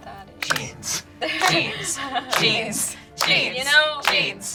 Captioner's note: claps